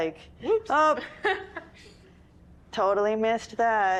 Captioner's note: laughs